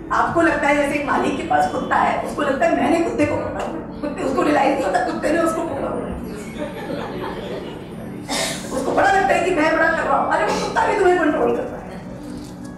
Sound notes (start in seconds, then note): 6.5 audience laughs